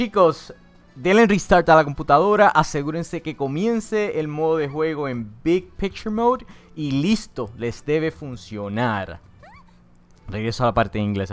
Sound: spanish Voice over

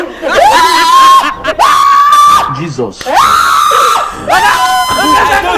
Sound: woman screaming

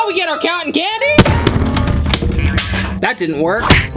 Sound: loud thud

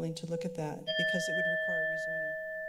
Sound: alarm sound

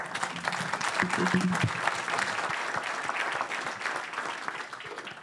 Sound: audience applauds

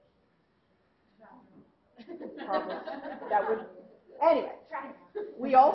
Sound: laughter

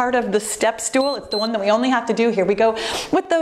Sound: timer beeps

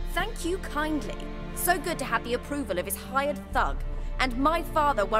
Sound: indignantly

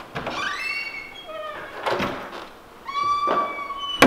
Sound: door squeaks

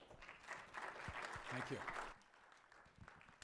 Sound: applause

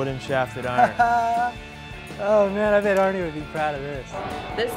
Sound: laughs

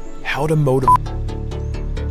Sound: beeps; upbeat synthesizer music

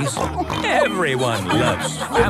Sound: snorts

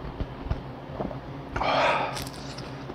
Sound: deep Breath💨

